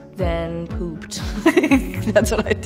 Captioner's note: laughing